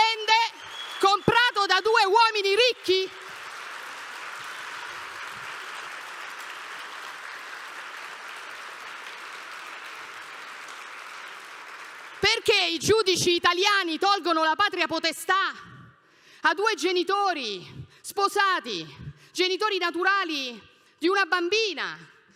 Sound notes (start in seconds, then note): 7.0 clapping